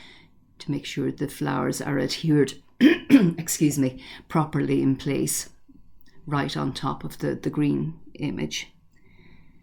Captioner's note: cough-excuse me